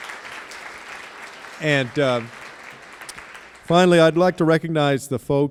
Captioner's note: applause